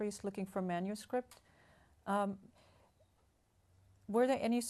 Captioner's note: pauses for 3 seconds